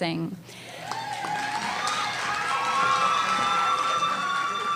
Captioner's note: cheering and applause